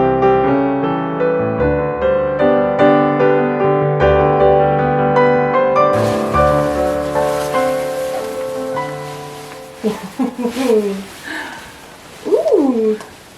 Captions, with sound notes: *music fades out* *swishing sounds of silk* Ooh hoo hoo hoo hoo! Ooooh!